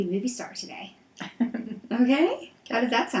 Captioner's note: laughs